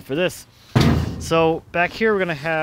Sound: clanks

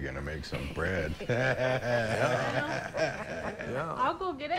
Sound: laughter

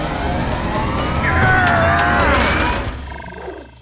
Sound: grunting

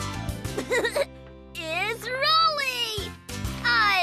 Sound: laughs

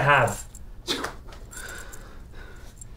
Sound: scoff

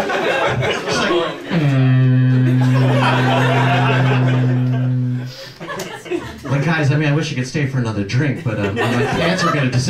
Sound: fog horn

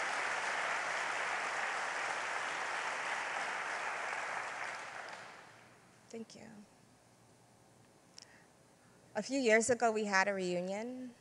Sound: applause

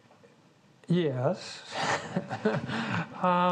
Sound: laughs

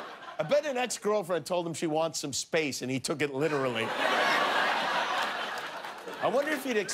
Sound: laughter

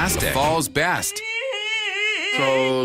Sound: crying noises

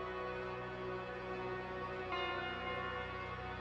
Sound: none

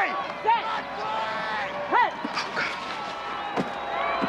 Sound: crowd cheering

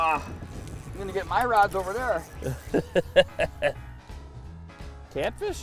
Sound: laughing

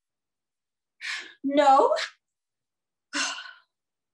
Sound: sighs

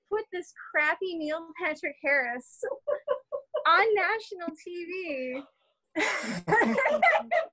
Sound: laughter

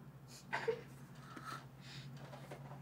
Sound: laughter

